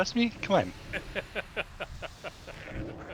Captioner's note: laughing